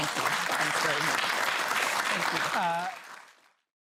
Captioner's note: applause